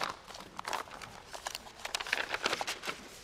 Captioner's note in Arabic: قعقعة